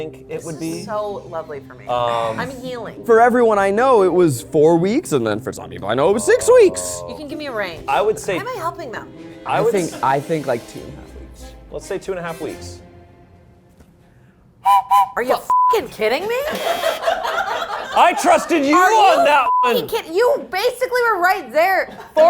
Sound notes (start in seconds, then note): 14.6 whistle blows; 17.1 crew laughing